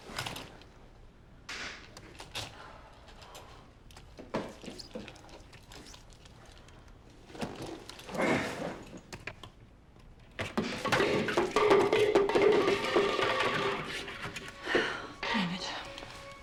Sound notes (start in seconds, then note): 8.1 grunts; 10.5 clattering